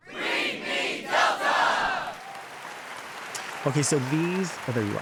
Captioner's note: applauds